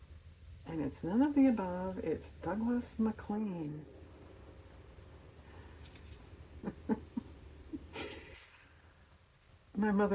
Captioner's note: laughs